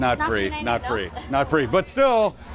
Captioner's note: laughs